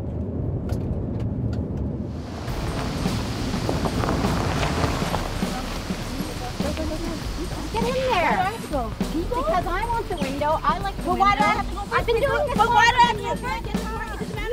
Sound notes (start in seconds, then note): 7.2 arguing